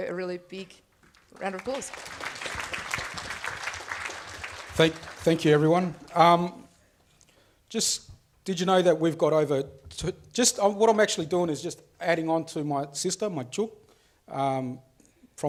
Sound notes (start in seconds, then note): 2.9 audience applauds; 13.5 speaks foreign language